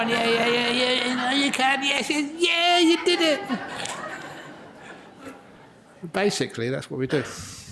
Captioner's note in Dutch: lachen